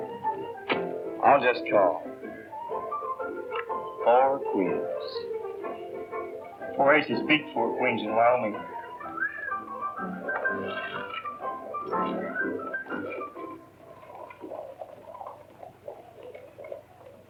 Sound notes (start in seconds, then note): 8.4 whistle